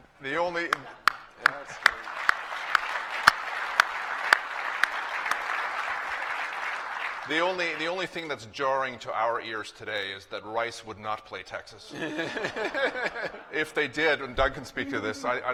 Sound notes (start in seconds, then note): 0.6 applause; 11.8 laughter